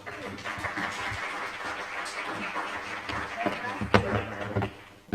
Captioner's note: applause